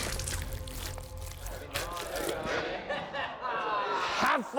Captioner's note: chatter